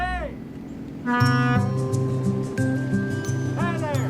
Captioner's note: horn honks